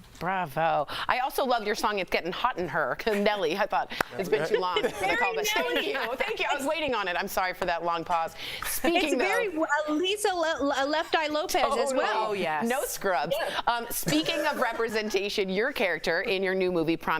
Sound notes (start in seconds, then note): 14.0 laughter